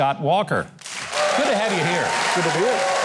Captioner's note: audience applauds